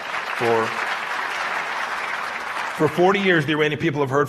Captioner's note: applause